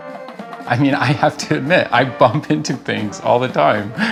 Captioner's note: laughing